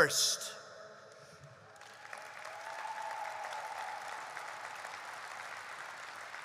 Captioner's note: applause